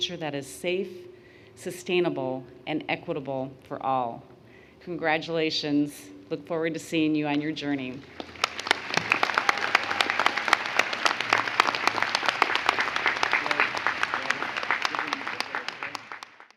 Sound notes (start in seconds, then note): 8.0 audience applauds